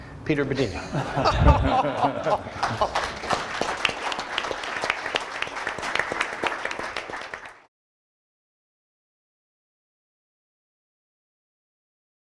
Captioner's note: audience laughter and applause